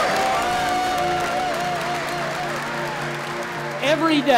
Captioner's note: applause